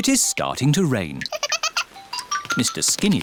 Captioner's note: giggles